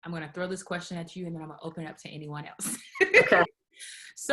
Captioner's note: laughs